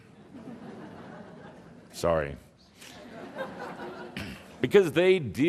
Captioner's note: some laughter